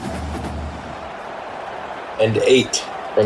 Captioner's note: crowd Noises